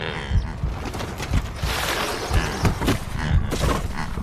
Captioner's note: bird wings flapping